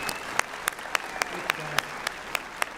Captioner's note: applause